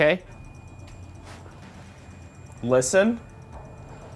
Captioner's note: Rem pod beeping